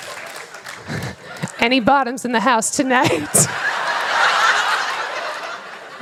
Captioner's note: laughter; applause; laughter